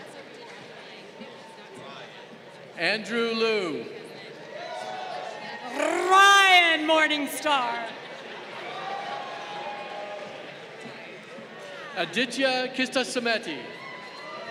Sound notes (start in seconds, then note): 4.7 crowd cheering; 8.4 crowd cheering; 13.4 crowd cheering